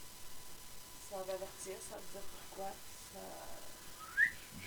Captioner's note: whistle